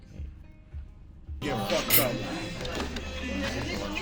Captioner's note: utensils clatter